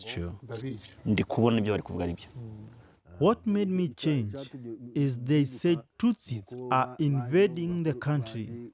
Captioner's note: through translator